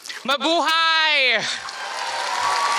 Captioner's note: non-english speech; applause